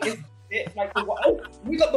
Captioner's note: laughter